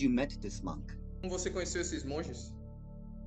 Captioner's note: repeated in Portuguese